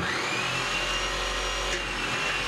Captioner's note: whirring, hissing